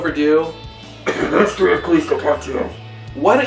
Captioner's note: coughs